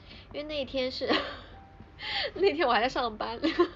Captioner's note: laughs